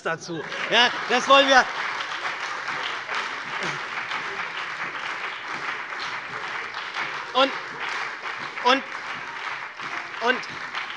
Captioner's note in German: Lebhafter Beifall bei der SPD und der FDP